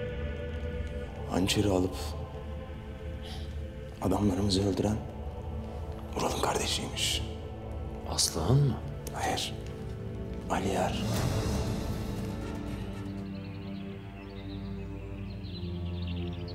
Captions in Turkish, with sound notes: Hançeri alıp... ...adamlarımızı öldüren... ...Ural'ın kardeşiymiş. Aslıhan mı? Hayır. Aliyar. (Kuş cıvıltısı sesleri)